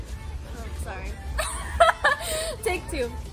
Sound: giggles

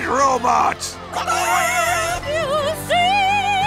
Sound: cheering

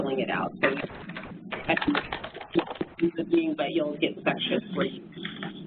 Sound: electronic distortion

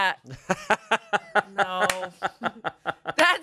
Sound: laughs

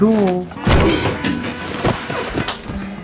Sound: smack

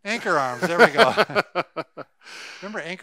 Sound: both chuckle

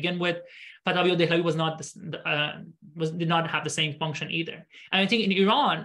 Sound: speaking arabic

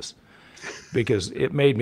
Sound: chuckles

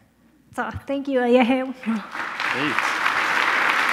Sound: speaking in foreign language; audience applauding

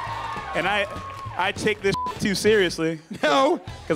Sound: beep

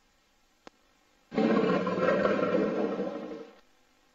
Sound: jaguar roaring

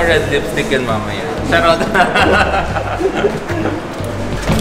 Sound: laughs

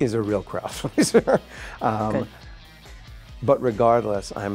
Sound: laughs

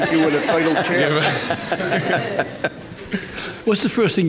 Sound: all laughing

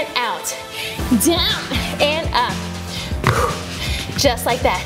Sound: exhales

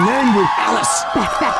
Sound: whisper

